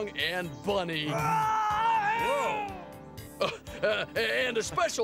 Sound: Bunni yelling

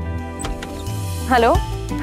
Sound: door opens

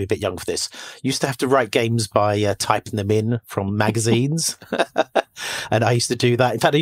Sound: laughs

